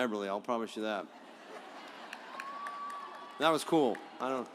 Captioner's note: audience applauds